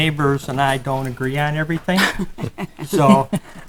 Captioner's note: laughing